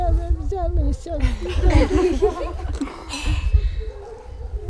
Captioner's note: laughter